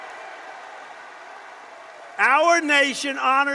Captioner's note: applause